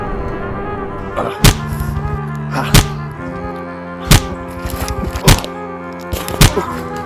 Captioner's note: punching noises